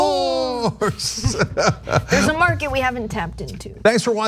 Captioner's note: laugh